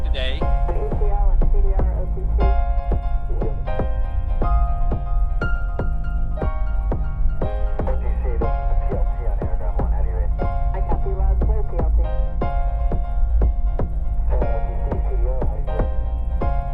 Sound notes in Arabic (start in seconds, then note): 3.8 موسيقى هادئة; 7.8 تستمر الثرثرة الإذاعية غير الواضحة; 14.0 تستمر الموسيقى الهادئة